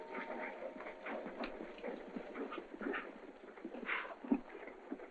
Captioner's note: hooves clopping